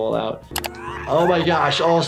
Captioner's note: Handy screaming